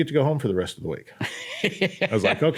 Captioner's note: laughs